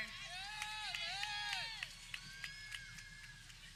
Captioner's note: people cheering